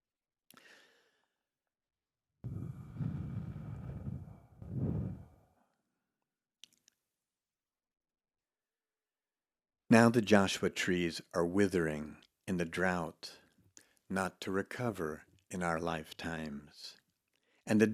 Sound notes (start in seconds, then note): 2.4 air humming